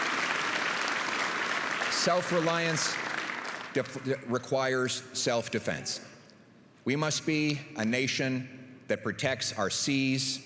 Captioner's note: applause